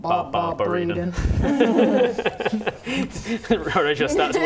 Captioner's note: laughing